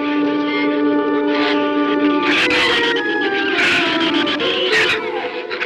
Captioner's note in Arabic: ثرثرة الزبابة